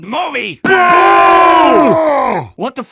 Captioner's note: disapproval booing